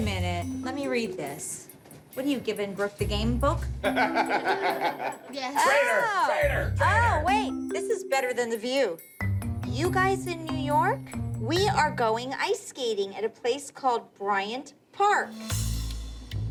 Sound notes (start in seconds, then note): 3.8 laughter